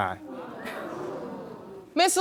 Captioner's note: audience exclaiming